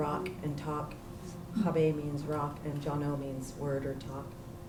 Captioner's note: non-english